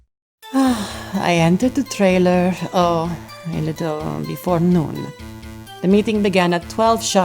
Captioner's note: sigh